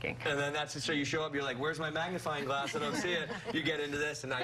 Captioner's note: laughter